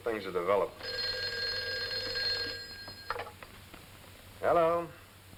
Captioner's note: phone rings